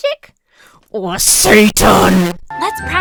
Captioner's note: microphone peaks